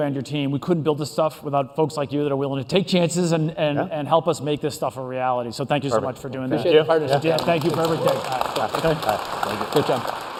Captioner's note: applause